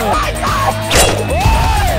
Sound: explosions

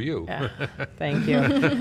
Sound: laughs

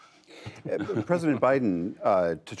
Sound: laughter

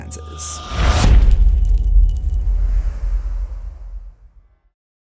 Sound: impact

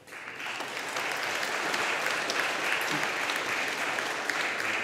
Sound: audience applauding

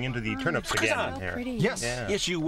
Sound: non-english speech

